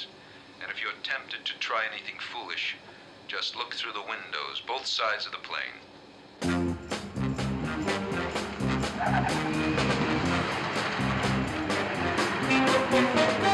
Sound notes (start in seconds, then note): 6.4 upbeat theme playing; 7.6 tires screech